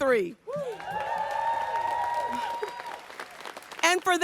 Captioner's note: audience cheers and applauds